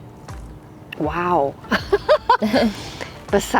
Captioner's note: both laugh